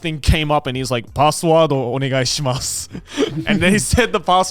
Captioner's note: speaking in foreign language